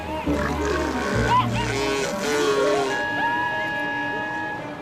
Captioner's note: honking